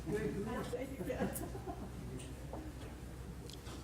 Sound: laughter

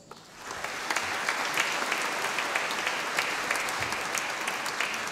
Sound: audience applauding

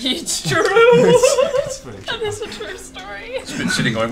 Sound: giggles

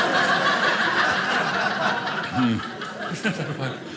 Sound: audience laughing

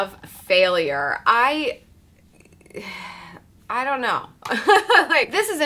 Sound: chuckles

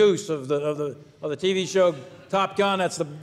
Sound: people laugh

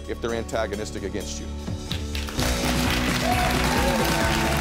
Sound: audience applauding; upbeat music

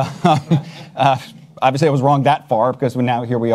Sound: panelists chuckle

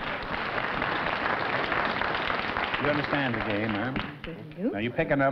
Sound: applause

